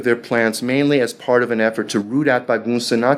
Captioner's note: speaking foreign language